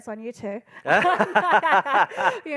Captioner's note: laughing